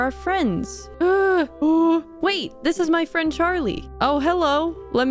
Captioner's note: Charlie speaks shadow brute